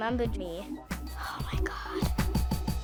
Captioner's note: whispers